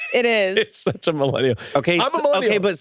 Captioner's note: laughs